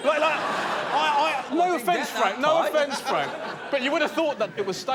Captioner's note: laughter